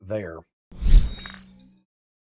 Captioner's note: graphics whooshing